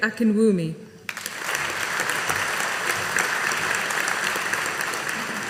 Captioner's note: audience applauding